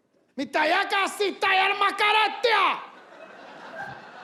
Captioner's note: speaking in Arabic